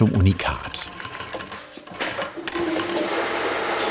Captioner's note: rapid rattling in the background